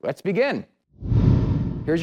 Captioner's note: swoosh